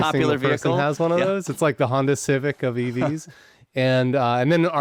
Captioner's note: chuckles